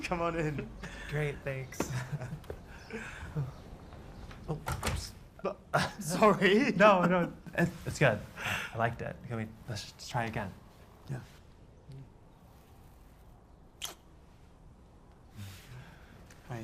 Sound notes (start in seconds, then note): 1.8 chuckles; 5.7 chuckles; 13.8 lips smack